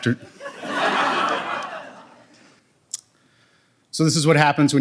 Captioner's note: audience laughs